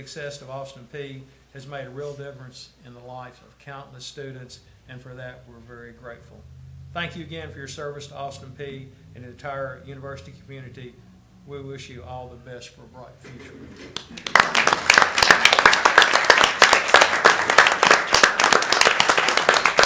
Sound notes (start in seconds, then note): 13.5 attendees applaud